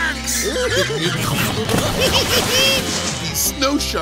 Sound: giggling

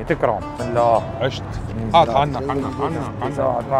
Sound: chatter

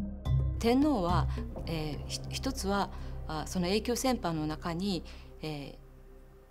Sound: speaking in foreign language

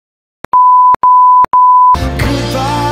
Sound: beep

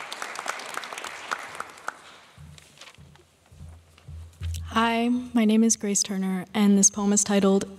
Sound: applause

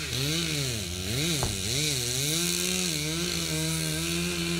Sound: chainsaw buzzing

